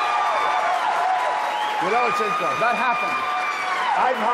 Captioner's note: applause